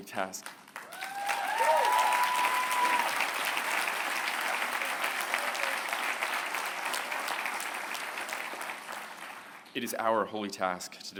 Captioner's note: applause